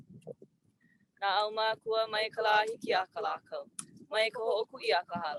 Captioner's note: speaking native language